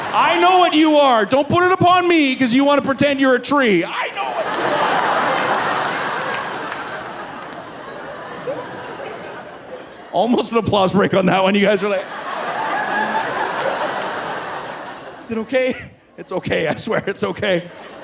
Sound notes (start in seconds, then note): 0.0 audience laughing; 5.9 audience laughing; 17.5 laughing